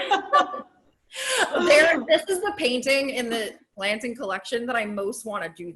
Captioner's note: laughs